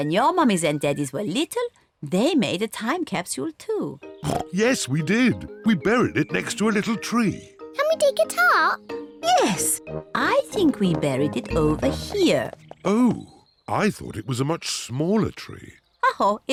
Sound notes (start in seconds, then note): 4.2 oinks